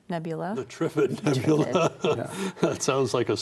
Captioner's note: all laugh